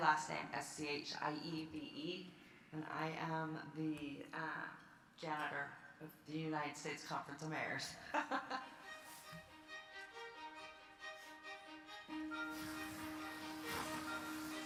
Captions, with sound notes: Last name S-C-H-I-E-V-E. And I am the Janitor of the United States Conference of Mayors. (laughs) (bright music)